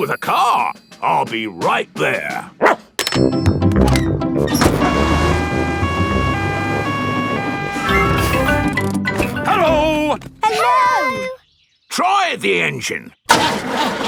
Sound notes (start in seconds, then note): 4.5 siren wailing; 13.3 engine sputtering